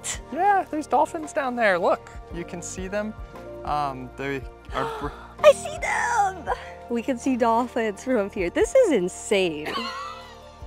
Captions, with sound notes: yeah there's Dolphins down there look! you can see them um they are... [gasps] I see them! we can see dolphins from here this is insane!